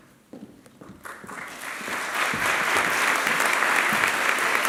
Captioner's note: applause